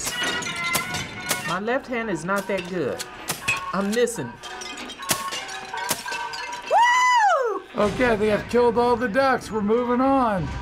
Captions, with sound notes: (gun clicking) - My left hand is not that good. I'm missing. (guns clicking) - WOO! - Okay, I think I killed all the ducks. We're moving on.